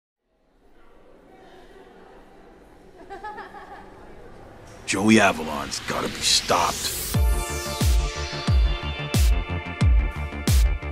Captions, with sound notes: (laughing) Joey Avalon's gotta be stopped. (upbeat music)